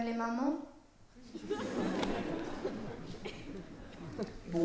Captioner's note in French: rires